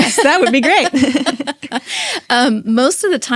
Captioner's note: laughing